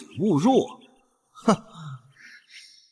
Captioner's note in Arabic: يضحك ساخرًا